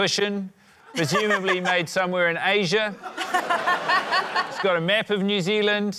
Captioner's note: laughter